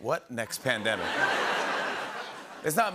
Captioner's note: laughter